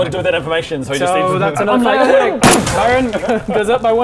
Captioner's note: bang!